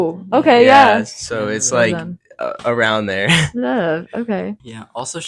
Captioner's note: laughs